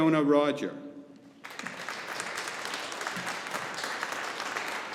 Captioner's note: audience applauding